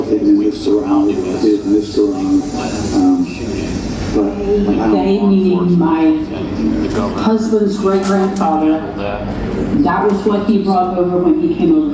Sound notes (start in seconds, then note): 0.0 male voice speaking English; 3.2 male voice speaking English; 6.2 female voice in English